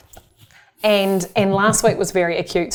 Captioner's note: laughs